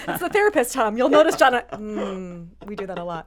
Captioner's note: group chuckles